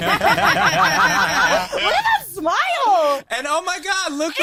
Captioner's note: group laughing